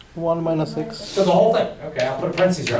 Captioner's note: voiceover